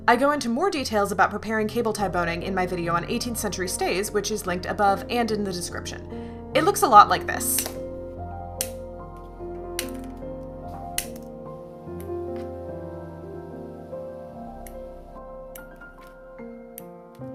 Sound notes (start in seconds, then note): 9.3 big snip